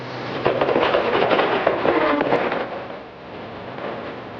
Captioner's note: horse galloping